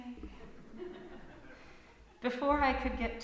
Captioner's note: laughter from congregation